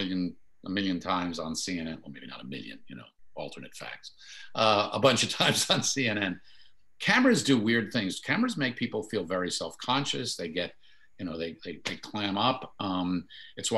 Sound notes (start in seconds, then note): 5.4 chuckles